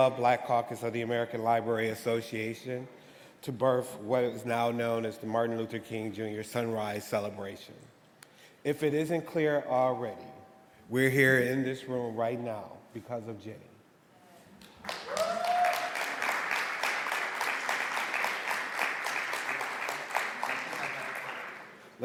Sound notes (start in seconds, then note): 14.6 audience applauding; 14.8 audience cheering